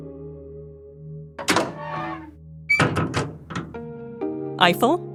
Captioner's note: door opens and closes